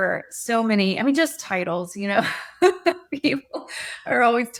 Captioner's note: chuckles